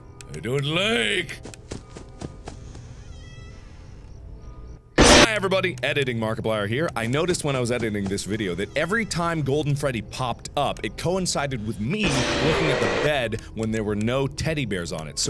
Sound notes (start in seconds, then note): 5.0 bam